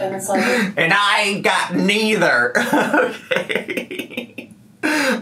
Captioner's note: laughs